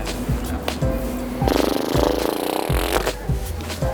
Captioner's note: Gary nickers